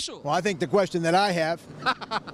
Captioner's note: laughing